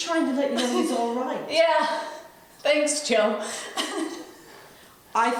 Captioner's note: laughs